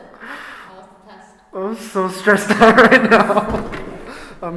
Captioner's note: laughing